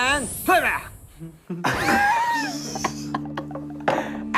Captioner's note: laughing